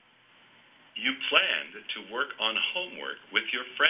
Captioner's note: male Voice